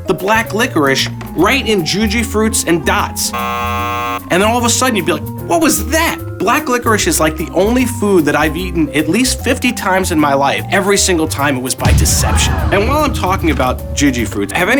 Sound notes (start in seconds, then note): 3.3 scoreboard buzzer; 12.0 audience gasping